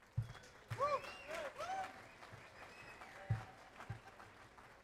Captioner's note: audience applauds